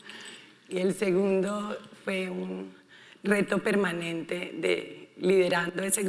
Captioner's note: speaking in foreign language